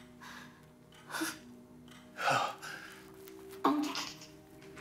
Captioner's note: clock ticking; both grunting